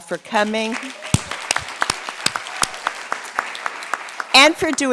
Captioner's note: audience clapping